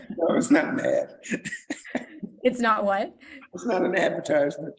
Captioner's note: laughs